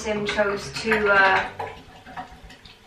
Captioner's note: strange bath noises